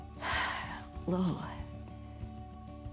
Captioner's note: exhales